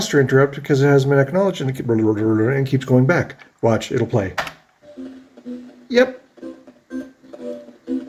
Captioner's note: whirrs